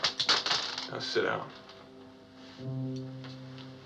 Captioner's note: bullets Clatter